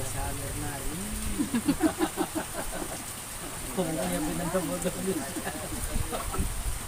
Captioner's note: laughs